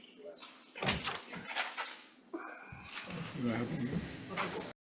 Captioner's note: indistinct conversation